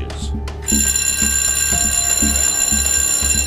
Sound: bell ringing

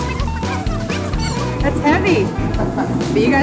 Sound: laughing

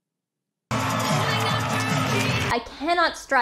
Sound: applauds

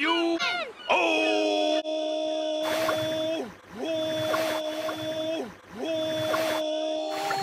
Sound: extended howling

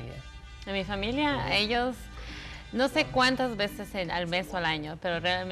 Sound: speaks in Spanish

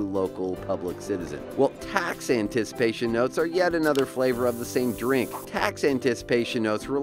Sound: Person opens can of cola

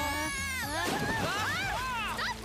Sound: shouting

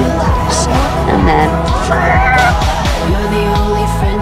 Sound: car screeches

